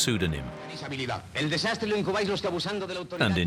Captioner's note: speaking Spanish